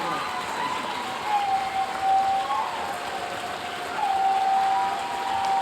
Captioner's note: audience cheering and applauding